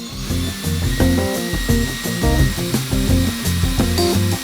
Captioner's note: drilling